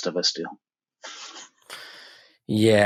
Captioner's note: chuckles